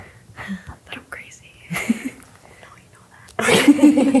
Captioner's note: laughs